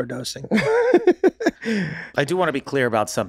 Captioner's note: laughs